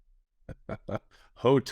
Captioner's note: chuckles